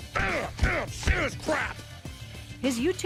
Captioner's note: grunting